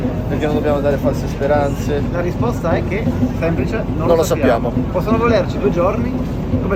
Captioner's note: none